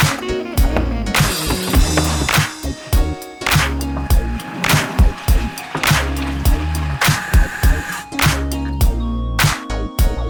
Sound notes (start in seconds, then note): 4.3 water sloshing